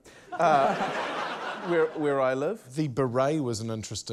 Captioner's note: laughter